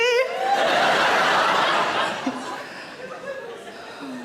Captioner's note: audience laughing